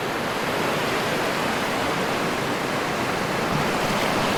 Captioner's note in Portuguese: Ondas do mar